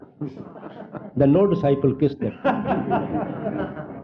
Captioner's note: laughter; laughter